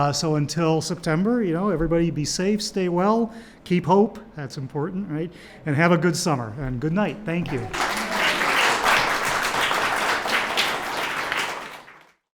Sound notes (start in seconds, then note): 7.4 audience applaud